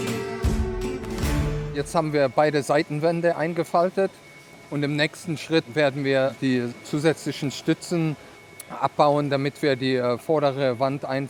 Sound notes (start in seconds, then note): 1.9 German